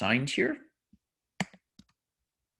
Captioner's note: typing